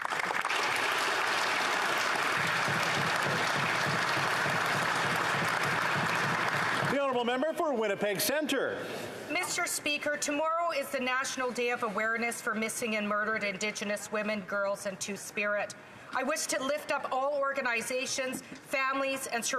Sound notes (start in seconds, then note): 4.9 some Applause